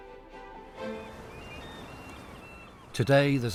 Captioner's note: energetic music; waves crashing; birds squealing